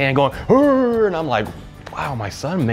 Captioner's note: mimicking growling noises